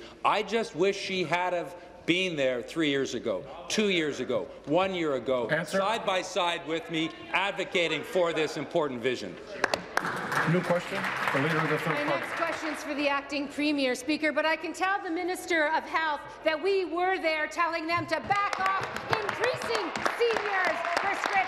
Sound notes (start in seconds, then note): 13.1 applause